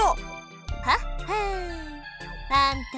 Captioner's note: knowing chuckle